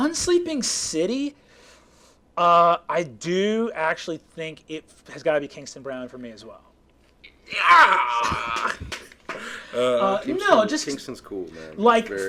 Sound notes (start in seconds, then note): 7.3 yelling